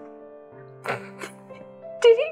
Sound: laughing

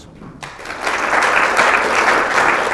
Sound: applause

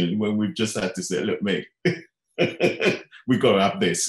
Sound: laughing

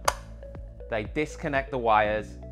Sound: switch clicking

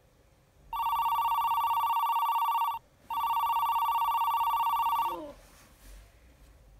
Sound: phone rings

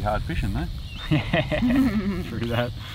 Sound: laughing

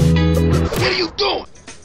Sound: thump

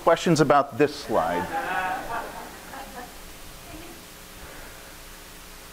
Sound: audience laughing

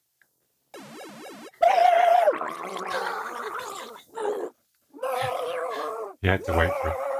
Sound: Luigi screaming and gasping for breath

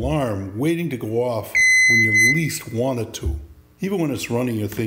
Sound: alarm bells

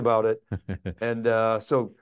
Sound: chuckling

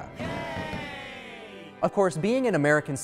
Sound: crowd cheering

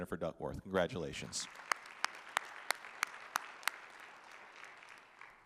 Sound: audience applauding

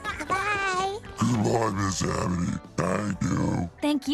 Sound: unsettlingly deep voice

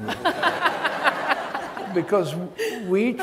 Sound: audience laughs

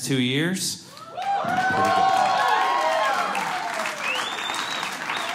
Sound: applause

